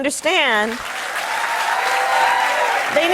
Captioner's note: cheers and applause